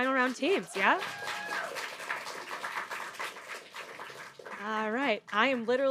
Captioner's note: audience applauding; audience cheering